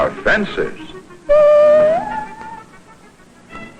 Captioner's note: weird sound effect